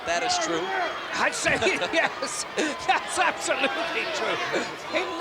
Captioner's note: laugh